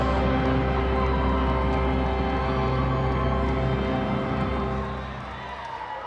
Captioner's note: motivational instrumental music continues; crowd applauding; crowd cheering